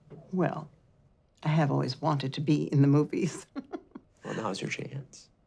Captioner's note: laughs